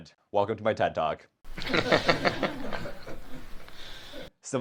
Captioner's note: audience laughs